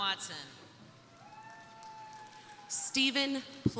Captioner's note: crowd cheering; crowd applauding